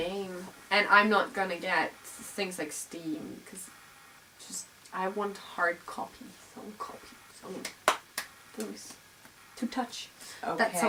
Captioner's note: claps